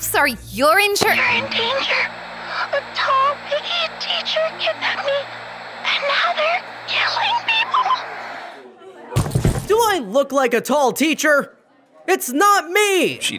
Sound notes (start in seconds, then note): 1.4 voice On Walkie; 9.2 everyone shuffling